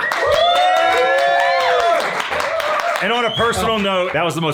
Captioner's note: everyone cheering and applauding